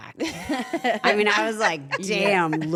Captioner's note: laugh